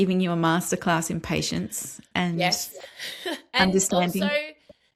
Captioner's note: laughs